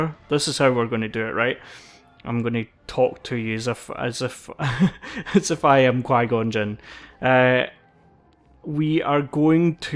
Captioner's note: laughs